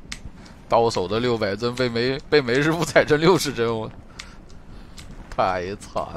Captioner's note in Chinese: 偷笑